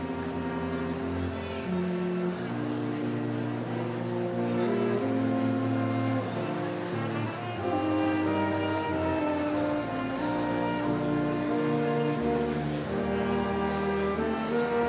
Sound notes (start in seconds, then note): none